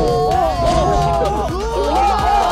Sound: swoosh

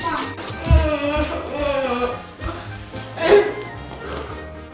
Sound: girl whining

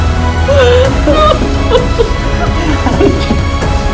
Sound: crying

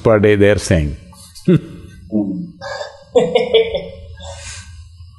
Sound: Sadhguru and Alexander Ludwig laugh

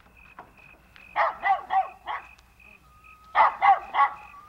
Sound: barking

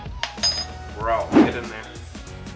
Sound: spoon clanks

